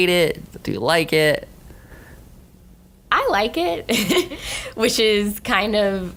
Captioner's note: laughing